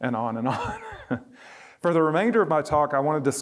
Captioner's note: laughter